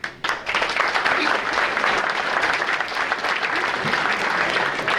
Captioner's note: audience applauding